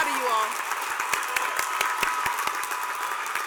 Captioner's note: cheers and applause